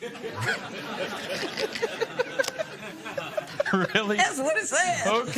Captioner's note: laughter